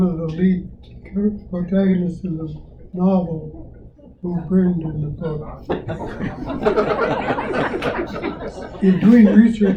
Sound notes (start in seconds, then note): 5.3 laughter